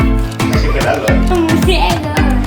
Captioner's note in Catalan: castellano